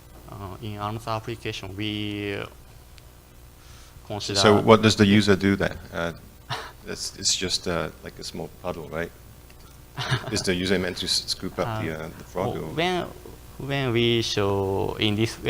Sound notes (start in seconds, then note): 9.9 laughs